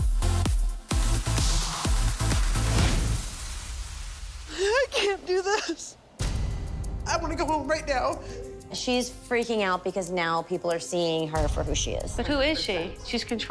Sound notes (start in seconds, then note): 3.8 crying